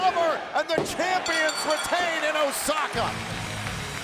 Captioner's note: bell rings